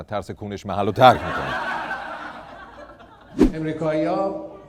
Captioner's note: laughter